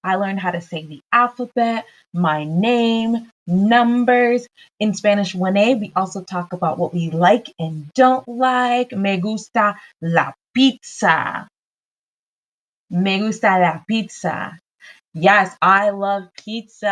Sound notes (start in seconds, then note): 9.1 speaks in Spanish